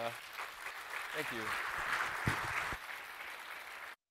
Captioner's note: applause